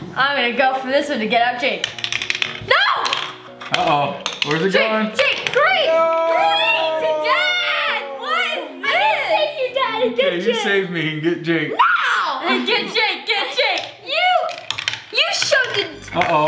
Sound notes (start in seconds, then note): 13.7 shouting